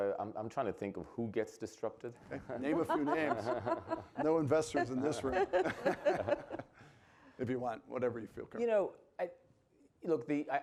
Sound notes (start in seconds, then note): 2.3 panelists laughing; 4.9 audience laughing